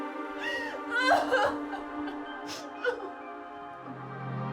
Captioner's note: crying; gentle music